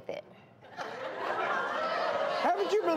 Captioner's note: audience gasps